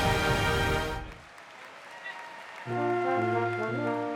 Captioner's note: audience applauds; lively instrumental music